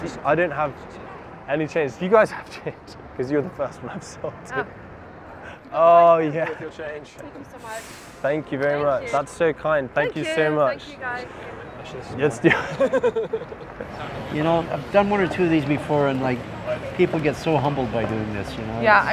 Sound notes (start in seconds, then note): 12.4 laughs